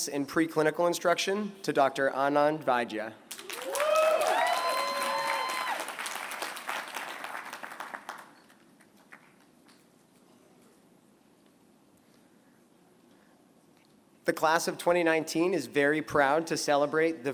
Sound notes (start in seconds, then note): 3.3 applause